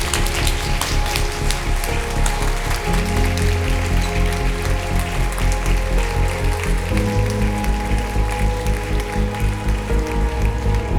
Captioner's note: applause